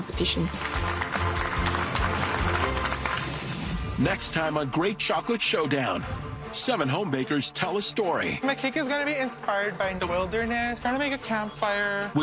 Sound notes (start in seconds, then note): 0.3 clapping